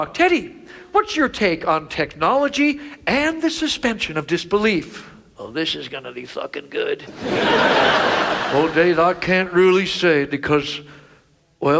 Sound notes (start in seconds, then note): 7.1 audience laughs